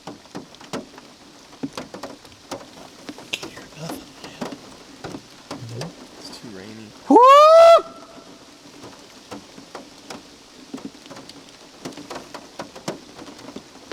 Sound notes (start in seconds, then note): 7.1 whooping